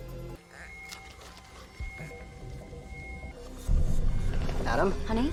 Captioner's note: monitor beeping; pensive music